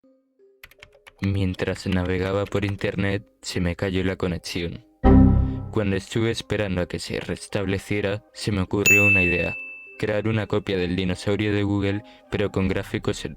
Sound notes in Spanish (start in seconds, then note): 5.0 Sonido error de Windows